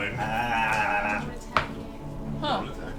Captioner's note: whispers